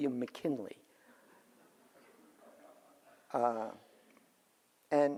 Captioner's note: audience laughs